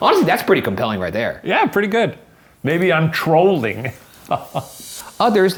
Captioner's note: chuckles